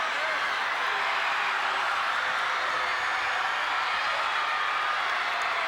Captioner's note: audience continues cheering